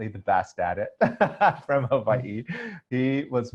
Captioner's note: laughs